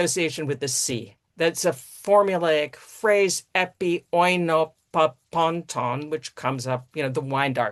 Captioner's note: greek speech